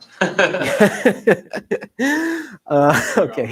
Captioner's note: laughter